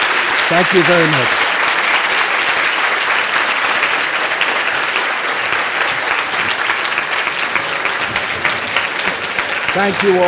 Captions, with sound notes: Thank you very much. [applause] Thank you all.